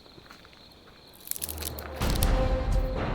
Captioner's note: twigs snapping; dramatic music